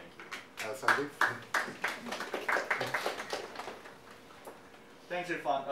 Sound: audience applauding

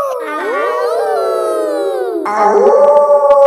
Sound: howling; kids howling; wolf howling loudly

